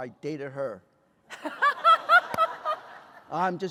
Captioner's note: laughter